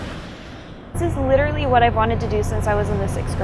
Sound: ocean waves

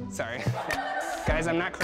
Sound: laughter

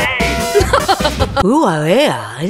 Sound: british laugh

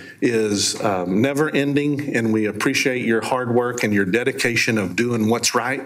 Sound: none

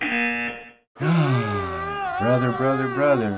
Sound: buzzer; sighs

